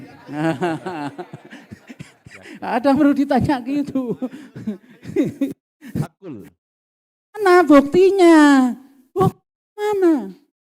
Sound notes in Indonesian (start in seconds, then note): 0.0 tertawa